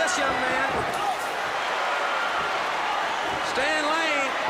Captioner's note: crowd cheering